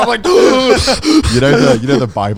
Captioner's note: gasping